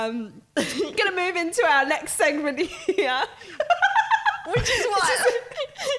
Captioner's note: laughing